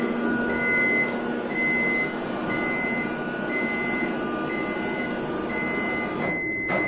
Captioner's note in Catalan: pip, pip, pip